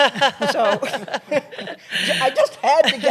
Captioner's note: laughter